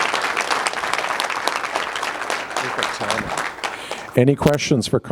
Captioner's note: applause